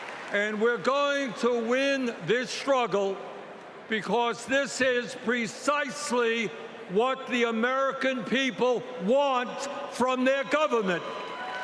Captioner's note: cheering